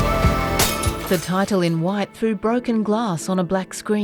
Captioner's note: shattering glass